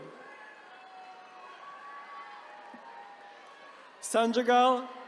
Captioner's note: attendees cheering